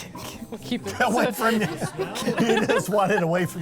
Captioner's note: laughs